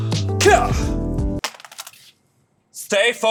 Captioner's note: phone falling on floor